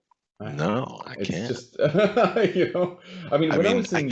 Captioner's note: laughs